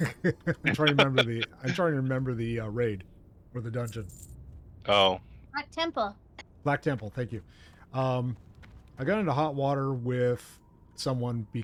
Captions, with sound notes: (laughs) I'm trying to remember the raid or the dungeon. Oh. Black temple. Black temple, thank you. I got into hot water with someone